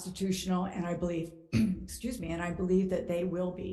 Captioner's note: coughs